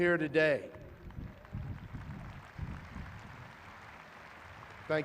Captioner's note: clapping